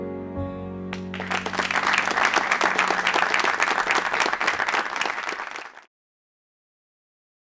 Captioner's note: clapping